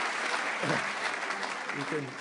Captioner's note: applause